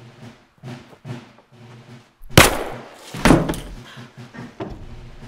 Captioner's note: gunshot popping; suspenseful music continues; door clattering